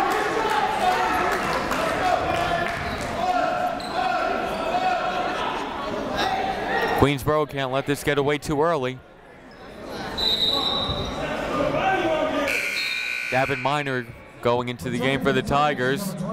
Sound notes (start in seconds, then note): 10.1 whistle